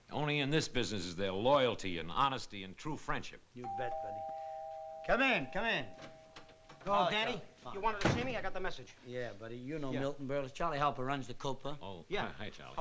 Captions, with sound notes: Only in this business is there loyalty and honesty and true friendship. - You bet, buddy. [DOORBELL RINGS] Come in. Come in. Hello, Danny. You wanted to see me? I got the message. - Yeah, buddy. You know Milton Berle. Charley Harper runs the Copa. - Oh. - Yeah. - Hi, Charley.